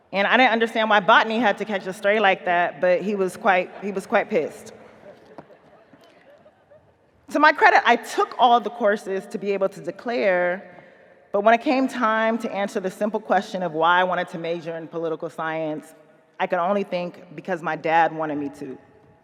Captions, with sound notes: And I didn't understand why Botany had to catch a stray like that, but he was quite pissed. (audience laughing) To my credit, I took all of the courses to be able to declare, but when it came time to answer the simple question of "why I wanted to major in political science," I could only think because my dad wanted me to.